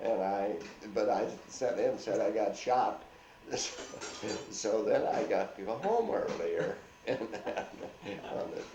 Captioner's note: laughs